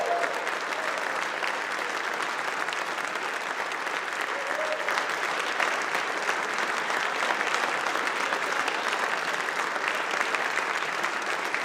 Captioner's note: applause